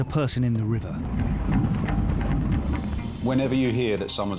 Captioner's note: boat gear rustling